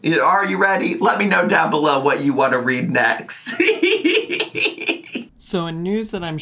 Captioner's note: laughing